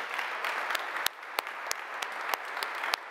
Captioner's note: applause